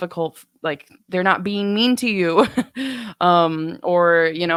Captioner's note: laughs